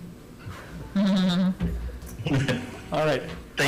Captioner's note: chuckles